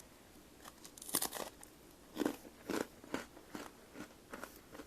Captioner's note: crunchy bite